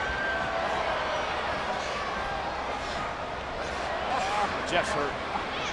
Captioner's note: audience chattering